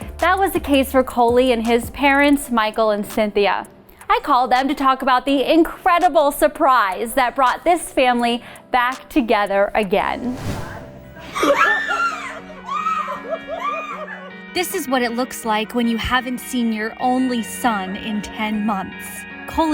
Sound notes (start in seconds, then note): 11.2 screaming